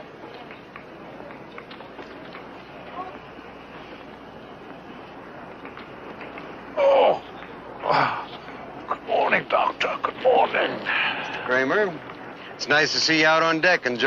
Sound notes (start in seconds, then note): 7.8 mister Kramer groans